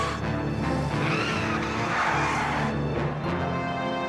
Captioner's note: tires squeal